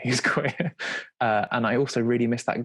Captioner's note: laughing